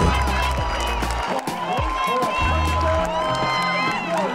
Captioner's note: audience cheering